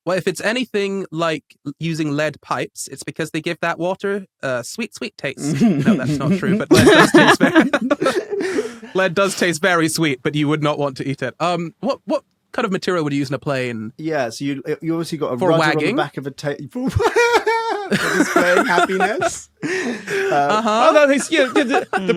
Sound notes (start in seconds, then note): 7.5 guests laughing; 16.8 laugh